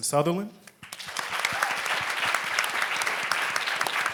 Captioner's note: applauds